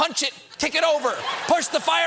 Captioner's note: laughter